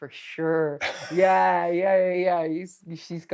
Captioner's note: Steve laughing